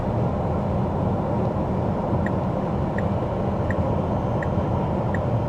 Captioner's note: car engine